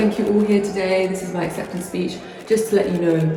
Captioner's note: cameras click